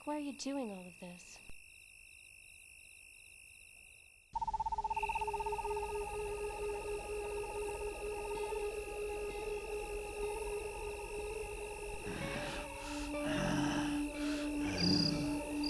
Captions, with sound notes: - Mike, why are you doing all of this? (animal chittering) (tense music) (Groden grunting)